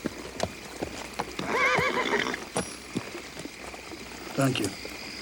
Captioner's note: horse neighs